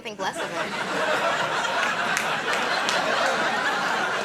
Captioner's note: crowd laughs